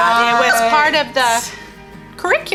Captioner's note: laughing